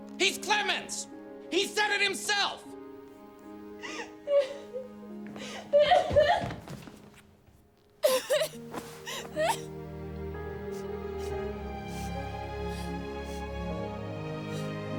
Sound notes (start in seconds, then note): 3.8 Eliza crying; 9.0 gentle moving music